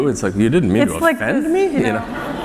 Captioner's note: laughter